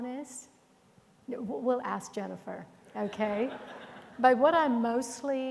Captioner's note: audience chuckling